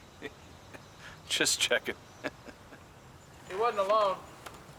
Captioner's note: chuckling